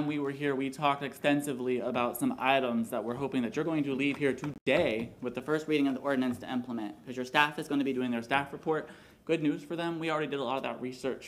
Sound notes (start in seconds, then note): none